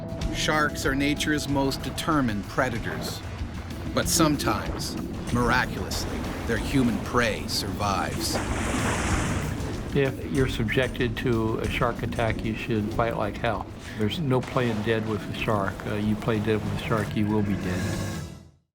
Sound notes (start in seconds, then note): 0.4 voiceover; 7.9 splash